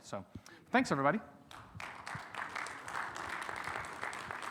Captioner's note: audience applauds